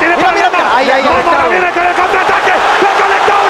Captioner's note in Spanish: Gritos